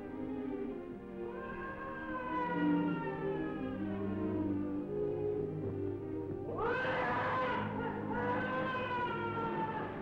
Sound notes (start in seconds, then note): 1.4 Silver screaming